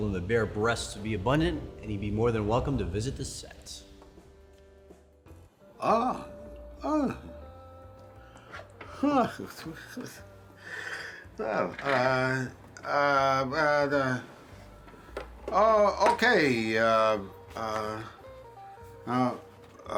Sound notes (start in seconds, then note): 9.0 chuckles